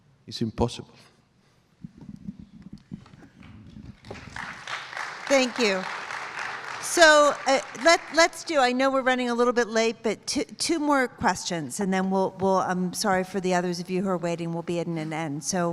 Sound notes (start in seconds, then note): 3.9 applause